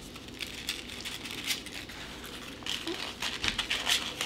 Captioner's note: paper crumpling